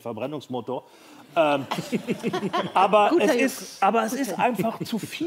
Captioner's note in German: Lachen